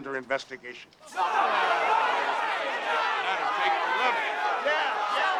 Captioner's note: crowd yelling